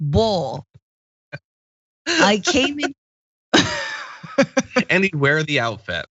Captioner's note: laugh